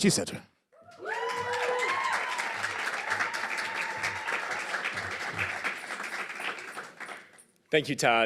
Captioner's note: applause and crowd whistles